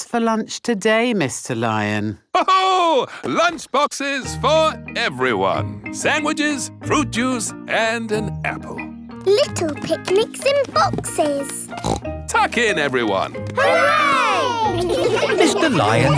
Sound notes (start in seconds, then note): 2.9 laughs; 11.6 snorts